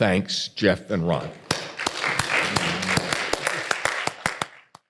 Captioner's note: audience applauds